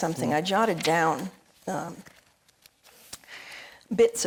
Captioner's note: paper rustling